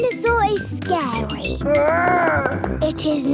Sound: growls

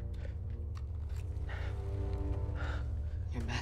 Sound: heavy breaths

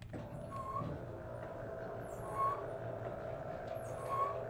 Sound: screen whirring

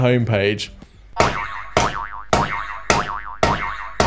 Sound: slapping

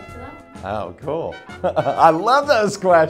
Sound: laughs

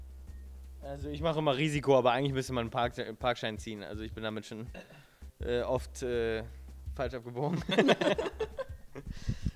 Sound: laughing

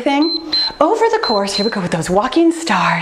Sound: timer beeps

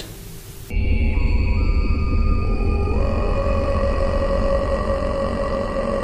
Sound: creature groans

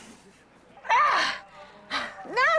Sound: grunting

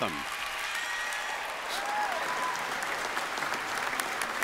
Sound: applause

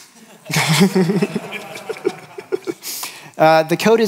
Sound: laughter

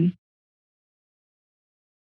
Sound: silence

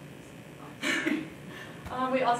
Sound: laughs

